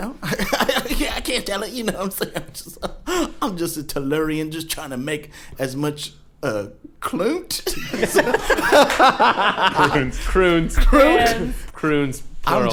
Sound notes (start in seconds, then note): 0.2 chuckling; 7.7 everyone bursts out laughing